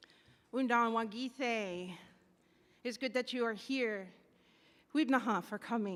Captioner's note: speaks in Native language